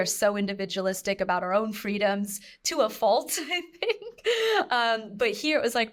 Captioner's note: chuckles